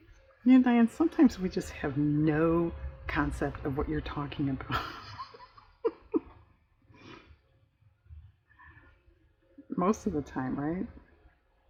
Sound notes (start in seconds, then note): 9.0 laughs